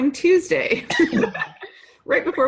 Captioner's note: laughing